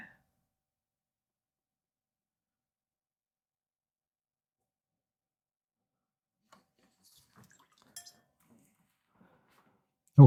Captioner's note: silence